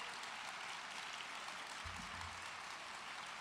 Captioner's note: cheers and applause